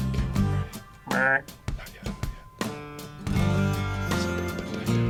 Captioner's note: deer call